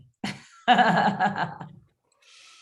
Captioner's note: chuckling